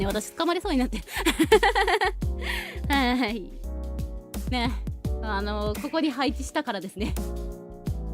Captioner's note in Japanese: 笑い